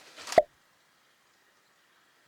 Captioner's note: pop